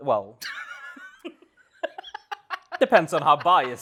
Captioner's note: laughs